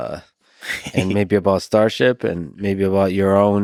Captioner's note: Tim laughs